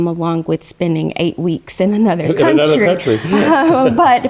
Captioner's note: laugh